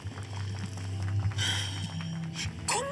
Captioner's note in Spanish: suspiros